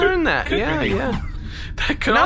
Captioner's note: laughing